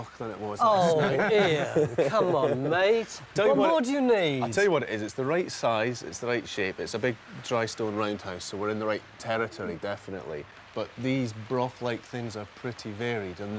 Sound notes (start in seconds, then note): 0.6 laughing